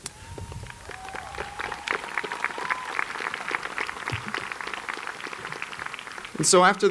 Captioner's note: applause